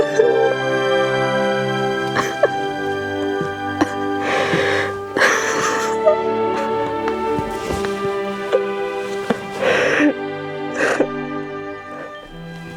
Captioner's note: crying